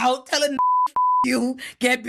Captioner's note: beep